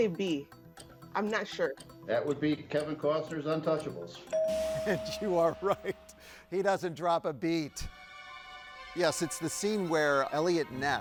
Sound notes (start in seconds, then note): 4.3 bell chimes; 7.0 tense music